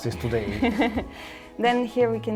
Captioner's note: laughs